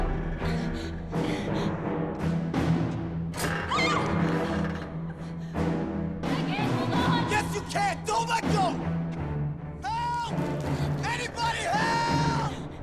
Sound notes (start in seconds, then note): 3.6 female scream